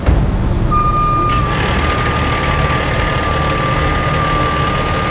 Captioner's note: truck wailing